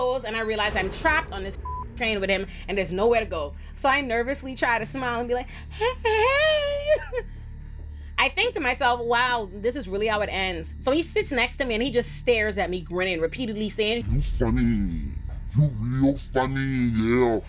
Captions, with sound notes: and I realize I'm trapped on this (beep) train with him and there's nowhere to go. So I nervously try to smile and be like, "Hey, hey." I think to myself, "Wow, this is really how it ends." So he sits next to me and he just stares at me grinning repeatedly saying, "You funny. You real funny, yeah.